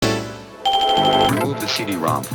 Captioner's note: Windows 95 error sound followed by a barrage of dings